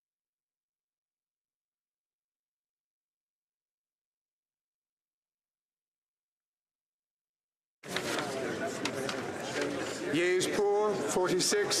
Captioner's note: speaking French